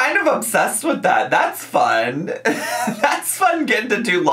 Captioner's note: laughs